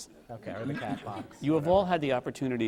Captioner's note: laughter